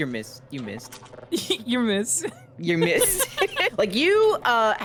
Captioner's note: laughs